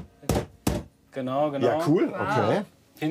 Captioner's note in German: Klopfen